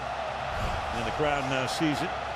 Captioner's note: cheering